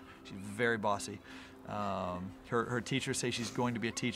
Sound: none

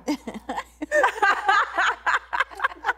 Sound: laughing

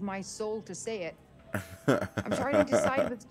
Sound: laugh

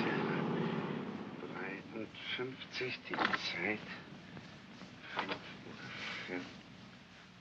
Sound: Shtiva mumbles in German

